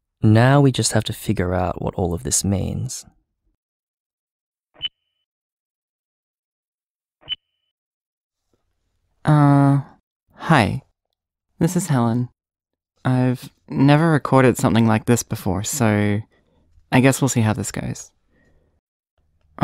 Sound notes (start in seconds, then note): 4.7 recorder beep; 7.1 recorder beep